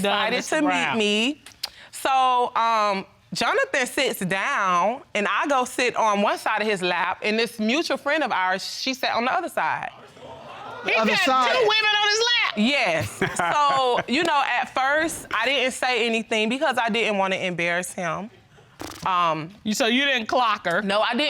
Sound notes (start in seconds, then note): 10.4 gasping in audience; 13.0 laughs